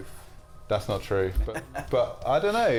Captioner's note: laughs